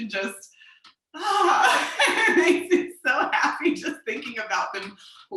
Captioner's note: laughs